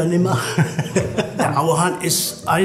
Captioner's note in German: Lachen